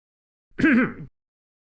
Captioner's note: clears throat